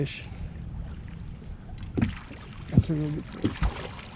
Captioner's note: fish splashing